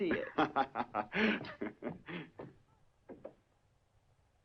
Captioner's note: laughing